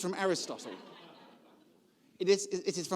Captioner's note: audience laughing